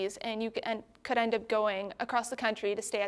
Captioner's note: none